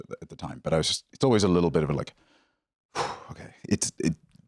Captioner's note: exhales